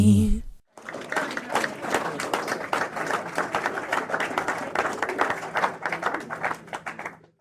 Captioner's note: applause